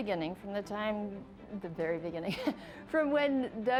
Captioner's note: laughing